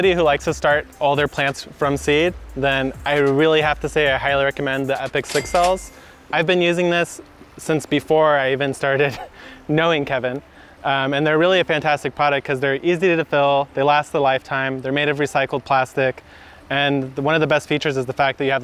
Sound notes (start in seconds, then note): 5.2 cash register rings